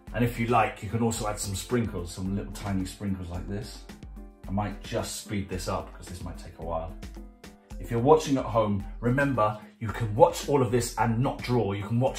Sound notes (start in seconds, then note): none